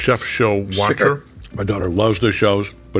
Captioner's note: chuckling